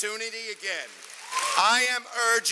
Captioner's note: cheers and applause